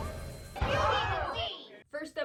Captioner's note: crowd gasp